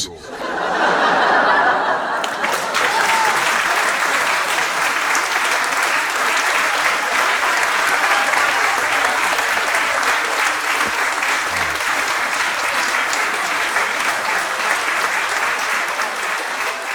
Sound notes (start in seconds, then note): 0.2 audience laughing; 2.7 audience cheering